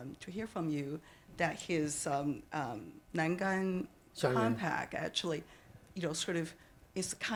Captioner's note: speaking Chinese